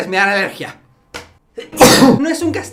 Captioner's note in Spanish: Estornudo